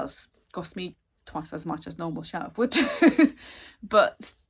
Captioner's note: laughs